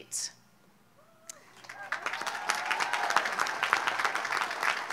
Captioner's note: audience applauds